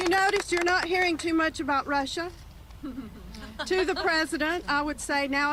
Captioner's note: applause